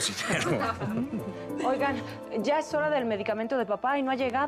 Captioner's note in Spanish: risas